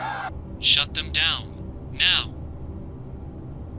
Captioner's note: on phone